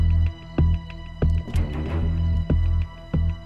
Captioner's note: Car door opening